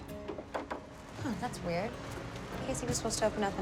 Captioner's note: locked door rattles; knocking